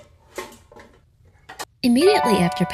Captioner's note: pots clattering; cheerful music